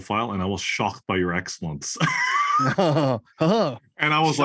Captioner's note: laugh